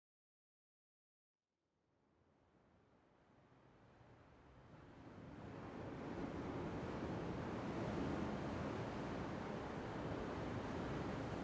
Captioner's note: sound of waves